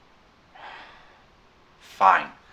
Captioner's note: breath